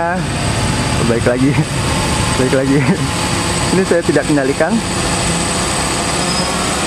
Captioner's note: chuckle